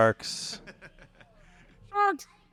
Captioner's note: laughs